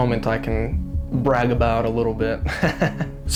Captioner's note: laughing